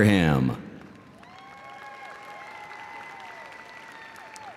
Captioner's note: audience applauding